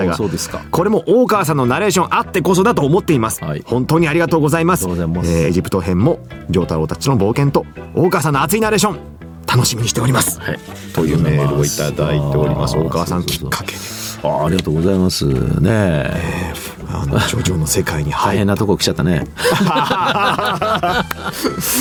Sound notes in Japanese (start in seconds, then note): 14.3 鼻息; 19.3 笑い